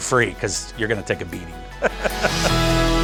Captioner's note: chuckles; bright music ending